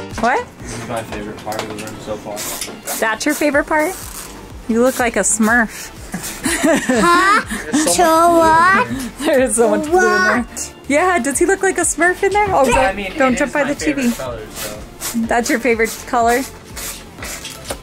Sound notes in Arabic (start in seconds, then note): 6.0 ضحك